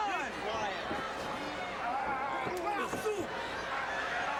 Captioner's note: crowd chattering